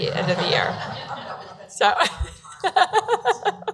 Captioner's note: laughing